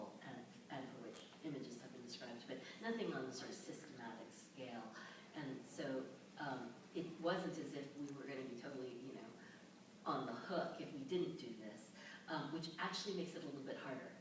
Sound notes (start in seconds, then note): none